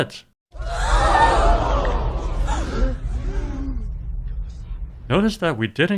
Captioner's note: crowd gasping